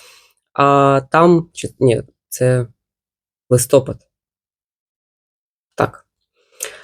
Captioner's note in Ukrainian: сопіння